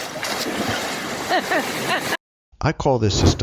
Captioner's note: water splashing